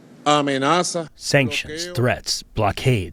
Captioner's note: through translator